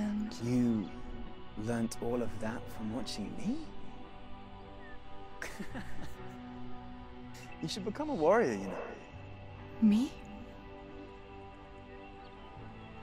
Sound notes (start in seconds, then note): 5.4 laughs